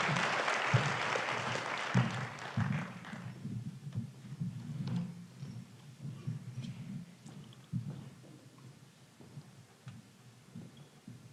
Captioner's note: applause